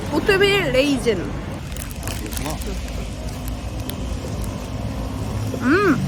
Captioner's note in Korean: 와앙 우물우물